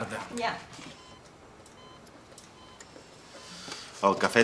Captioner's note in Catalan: pip-pip-pip-pip